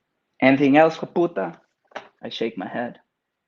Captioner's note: speaks Spanish